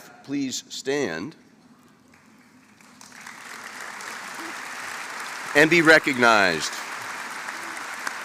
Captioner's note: applause